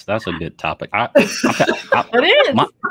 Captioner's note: all laughing